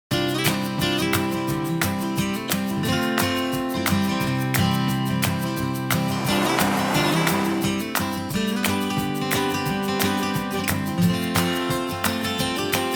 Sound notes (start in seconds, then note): 0.9 upbeat instrumental music; 7.9 sound of water waves; 8.7 upbeat instrumental music